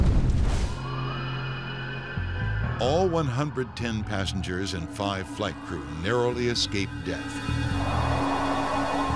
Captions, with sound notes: (sirens wail) All 110 passengers and five flight crew narrowly escaped death.